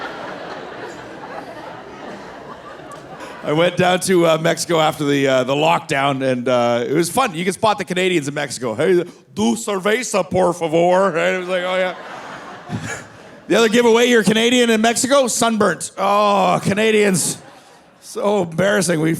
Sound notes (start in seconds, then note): 8.9 speaking Spanish; 11.6 laughs